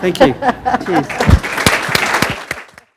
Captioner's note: applause